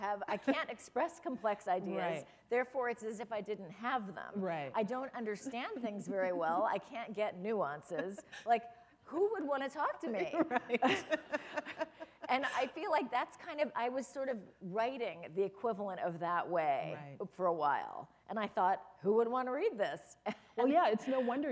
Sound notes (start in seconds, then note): 10.2 laughter; 20.3 chuckle